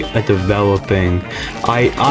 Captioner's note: inhales Oxygen